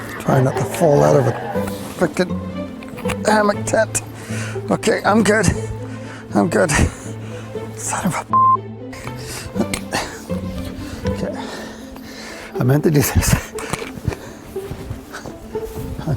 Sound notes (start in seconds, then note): 8.3 beep